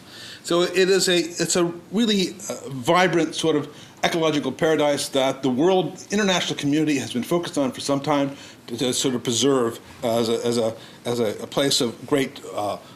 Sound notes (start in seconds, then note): none